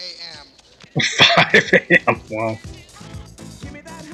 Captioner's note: chuckling